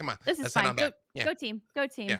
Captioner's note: murmurs